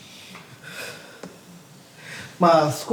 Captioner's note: sigh